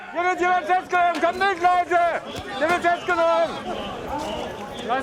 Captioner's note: German spoken audio